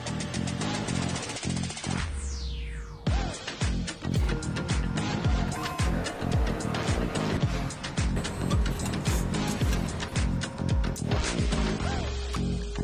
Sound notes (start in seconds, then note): 0.0 machine whirring; 5.4 drill whirring; 5.4 machine whirring